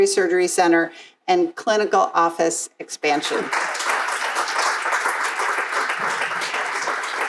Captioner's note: crowd applauding